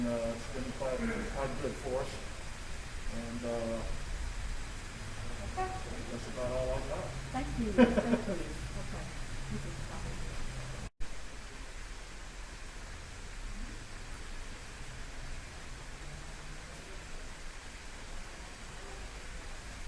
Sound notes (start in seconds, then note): 11.2 laughter